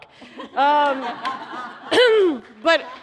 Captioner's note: laughter